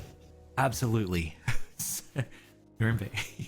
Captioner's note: laughs